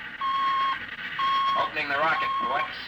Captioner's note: beeping